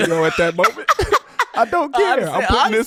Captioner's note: laughing